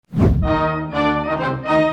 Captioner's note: whoosh